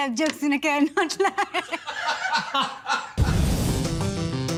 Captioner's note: laughter